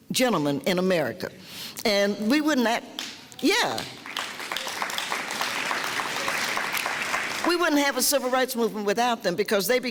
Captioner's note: clapping